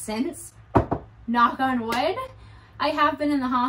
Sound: knocks

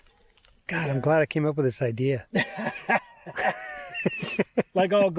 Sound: laughing

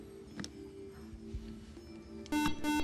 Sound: buzzer

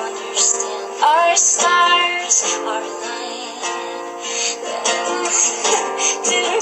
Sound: laughs

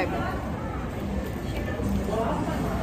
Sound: 🌶️ nom

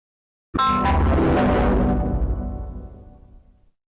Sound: Devil Windows Server 2003 Shutdown Sound

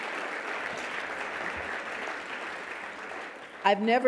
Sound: audience clapping

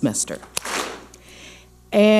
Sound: clap smack

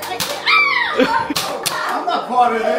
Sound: mom squeals

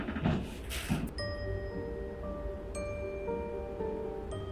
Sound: footsteps; mysterious music

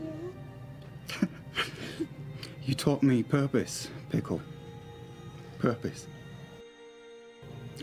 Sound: chuckles

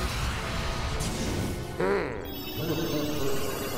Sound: grumbles; electric whirring, grumbles

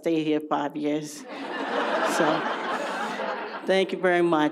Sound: audience laughs

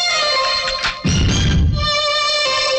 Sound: door opens

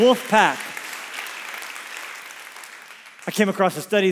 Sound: congregation applauds

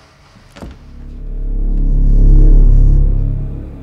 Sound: none

